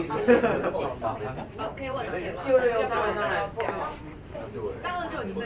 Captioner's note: speaking in foreign language